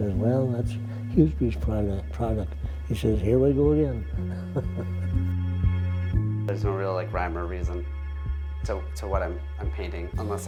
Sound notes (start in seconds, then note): 4.3 chuckles; 5.2 dramatic music